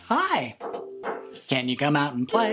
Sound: knocks on ukulele

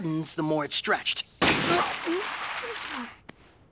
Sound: explosion

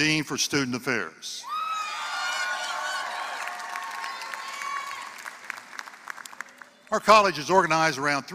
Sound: applause

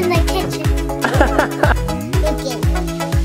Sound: laughing

